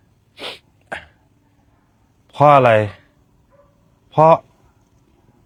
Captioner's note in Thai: เสียงสูดหายใจ